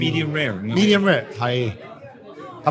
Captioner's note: speaks in foreign language